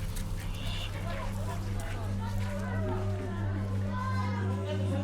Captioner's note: people chattering